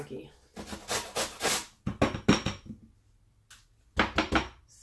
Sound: grater rasping

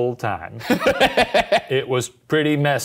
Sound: laughing

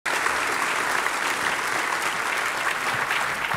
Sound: audience applauding

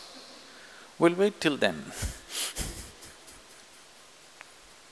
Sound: laughs

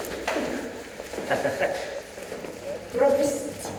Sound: Fyodor laughs

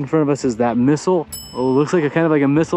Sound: bell dings

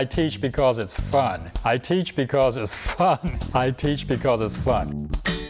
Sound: chuckle

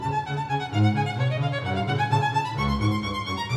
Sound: none

